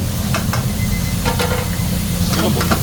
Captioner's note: timer alarm